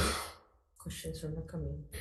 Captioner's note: person coughs